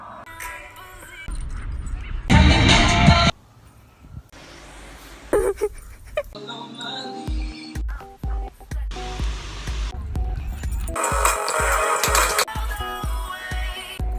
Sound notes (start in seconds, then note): 5.3 laughing; 8.3 upbeat music